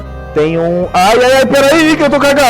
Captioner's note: despair noises